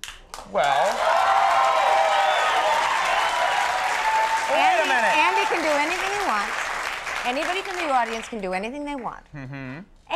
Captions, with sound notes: (audience applauding) Well. (audience cheering and clapping) Wait a minute. Andy can do anything he wants. Anybody in the audience can do anything they want.